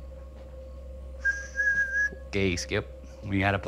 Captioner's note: crickets chirping; tense music; Tyler whistling